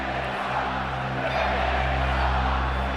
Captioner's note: chanting